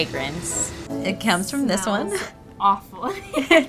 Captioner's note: laughs